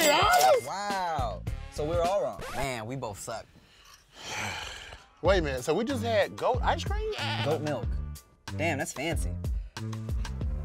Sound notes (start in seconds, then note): 3.6 exhaling